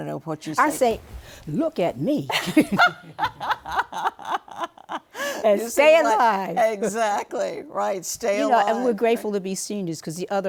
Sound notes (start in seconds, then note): 2.3 laughter